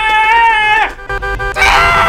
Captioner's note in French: klaxon